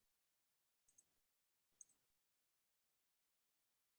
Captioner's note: mouse clicks